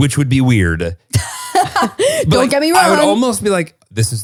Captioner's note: laughs